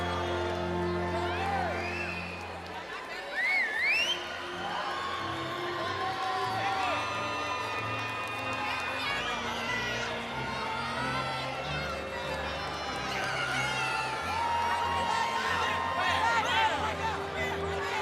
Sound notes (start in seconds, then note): 4.5 cheering continues; 4.5 inspirational music